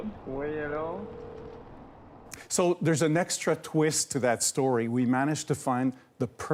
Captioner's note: phone ringing